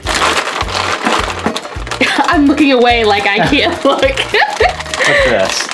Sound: laughs

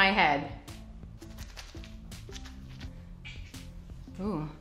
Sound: squelching

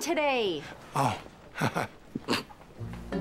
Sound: laughs

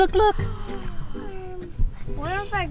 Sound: gasp

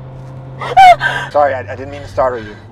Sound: Elsa screaming

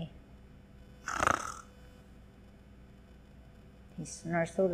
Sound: snoring

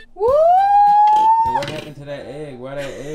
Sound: cheering; laughing

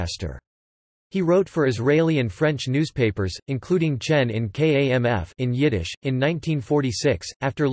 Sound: in Yiddish

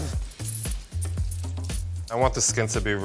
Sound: spraying

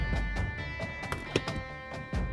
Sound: freezer door opens

